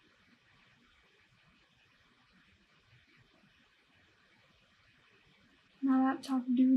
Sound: awkward silence

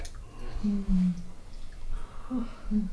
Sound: moans

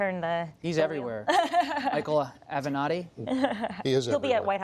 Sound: laughter

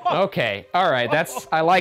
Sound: laughing

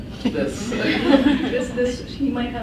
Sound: laughs

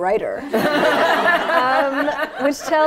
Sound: laughter

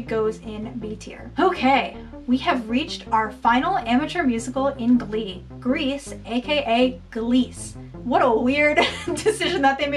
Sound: laughing

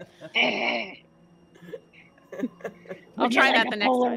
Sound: Pivam roaring

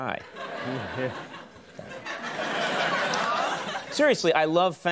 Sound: audience laughs

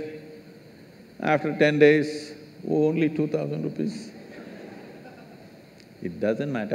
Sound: laughter

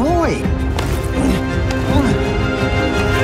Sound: grunts softly

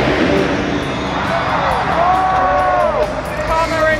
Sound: dirt bike engine revs; crowd cheers

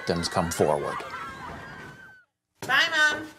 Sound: sounds of small children in a playground

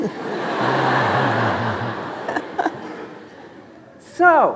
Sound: audience laughing

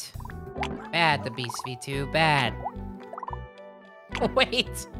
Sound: laughing

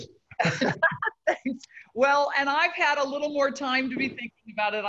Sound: laughs

